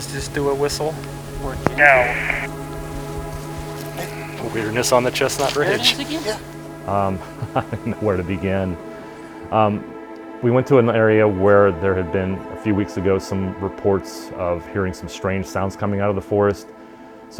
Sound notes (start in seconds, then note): 6.9 laughing